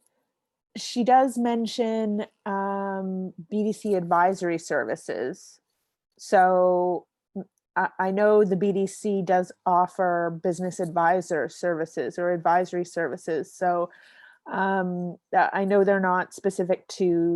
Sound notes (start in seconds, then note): none